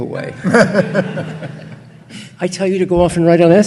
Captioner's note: audience laughing